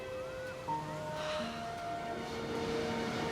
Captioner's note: sighs